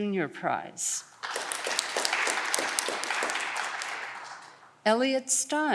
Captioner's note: audience clapping